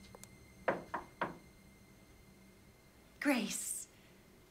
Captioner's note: knocking